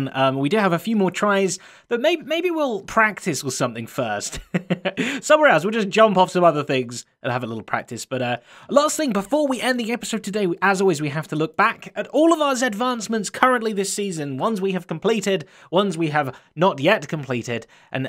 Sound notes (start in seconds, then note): 4.3 laughs